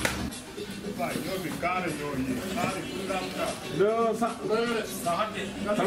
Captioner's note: men speaking in foreign language